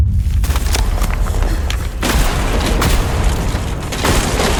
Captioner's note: explosions